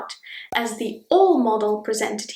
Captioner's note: bubble pops